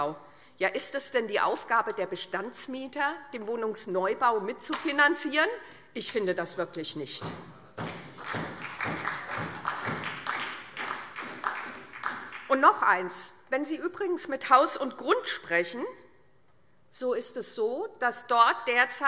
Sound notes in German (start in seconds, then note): 7.8 Beifall SPD